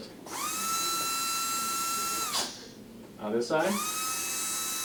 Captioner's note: brush whirring